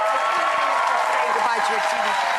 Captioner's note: audience cheers